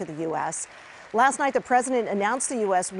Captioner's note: applause